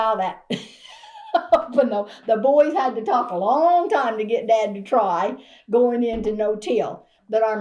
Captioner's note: laughs